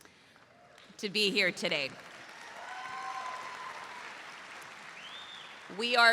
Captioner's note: audience applauds